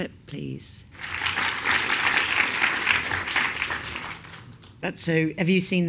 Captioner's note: applause